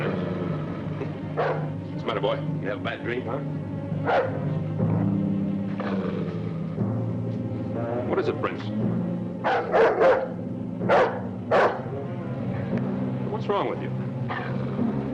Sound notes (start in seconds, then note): 5.6 dog growls; 9.4 dog barking